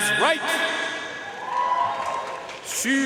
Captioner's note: audience cheering and applauding